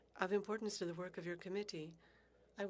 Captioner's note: speaking French